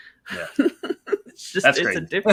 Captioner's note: laughs